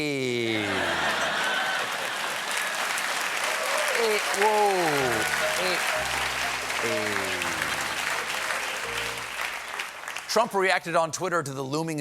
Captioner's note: as fonz